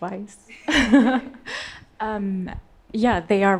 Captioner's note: all laughing